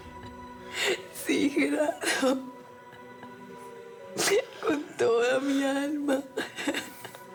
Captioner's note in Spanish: sollozos